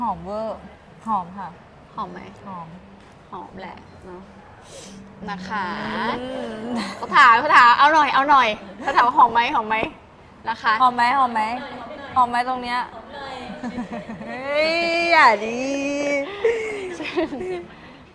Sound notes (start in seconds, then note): 4.6 sniffing